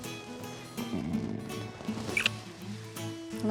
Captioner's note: smooch